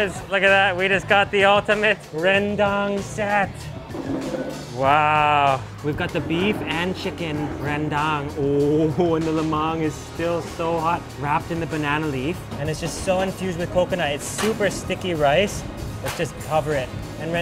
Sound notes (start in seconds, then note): 3.8 chair scrapes linoleum